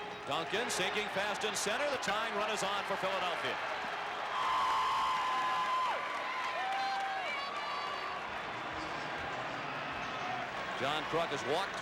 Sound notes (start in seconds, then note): 4.1 applause; 4.8 cheering and Applause; 6.9 some cheers and applause